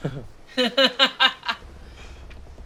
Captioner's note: all laugh